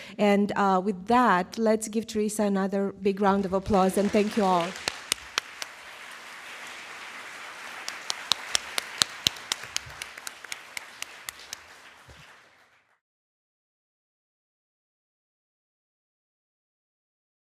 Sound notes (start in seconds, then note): 5.0 audience applauding